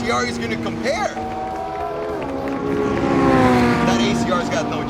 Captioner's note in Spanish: aplausos